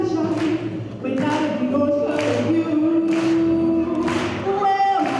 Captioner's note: crowd clapping along to song